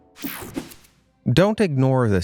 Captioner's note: air whooshing